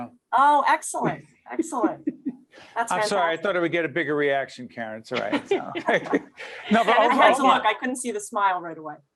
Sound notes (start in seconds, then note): 1.6 laughing; 5.1 all laughing